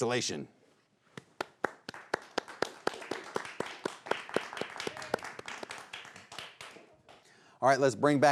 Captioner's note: crowd clapping